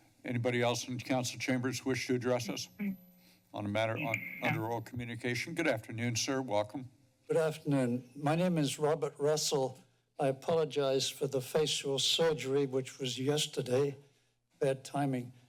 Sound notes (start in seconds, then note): none